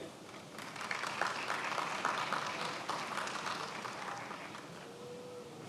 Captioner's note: attendees applauding